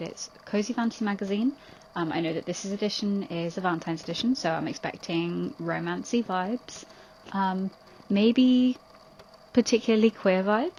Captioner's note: tape recorder clicks off